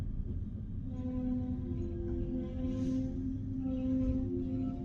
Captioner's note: ambient train noise